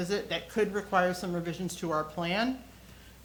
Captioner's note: none